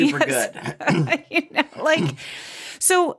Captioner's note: laughs